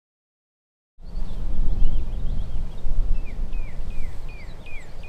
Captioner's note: birds chirping